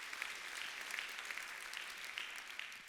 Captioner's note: applause